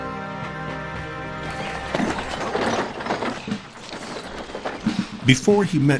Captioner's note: tack jingling